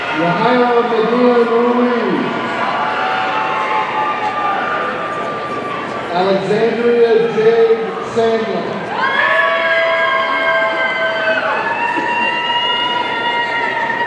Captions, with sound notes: Yajaira Medellin Ruiz, (audience cheering) Alexandria Jade Sandlin, (audience cheering)